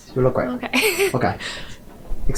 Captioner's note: laughs